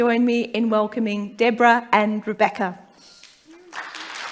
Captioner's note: applause